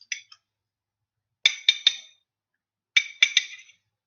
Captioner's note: fork clicking